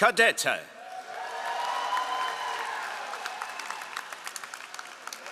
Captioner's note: all applauding